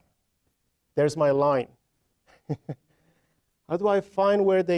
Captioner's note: chuckling